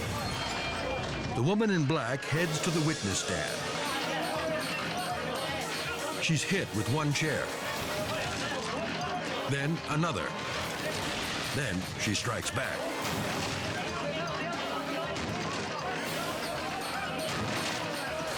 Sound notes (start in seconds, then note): 12.9 chair crashes; 14.1 dramatic music continues; 15.8 chairs crashing